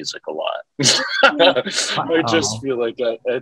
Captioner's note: laughs